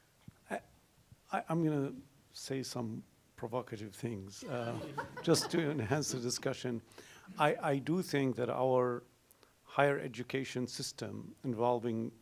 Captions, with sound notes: I'm gonna say some provocative things (audience laughs) just to enhance the discussion. I do think that our higher education system involving